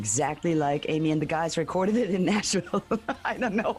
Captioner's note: risos